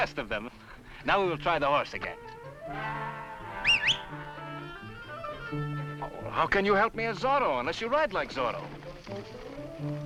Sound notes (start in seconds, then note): 2.5 whistles